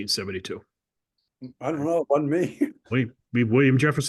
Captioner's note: laugh